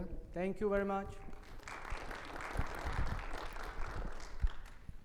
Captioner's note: audience applaud